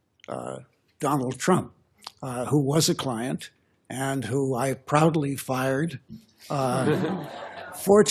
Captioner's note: laughter